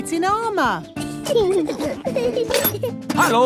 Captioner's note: children giggling